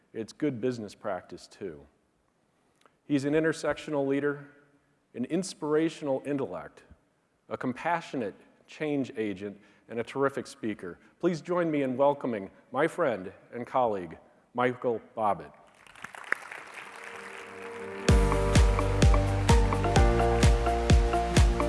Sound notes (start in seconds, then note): 15.7 audience applauding; 18.5 light upbeat music